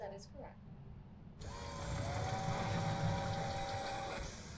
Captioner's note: door buzzes